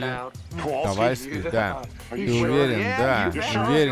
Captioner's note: none